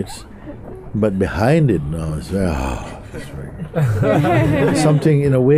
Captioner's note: laughter